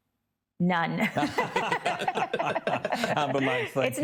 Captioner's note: group laugh